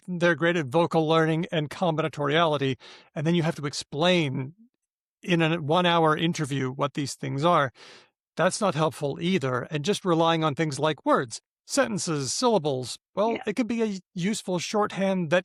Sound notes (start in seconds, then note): none